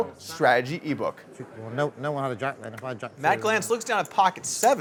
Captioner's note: poker players chattering